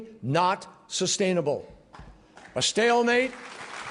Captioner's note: applause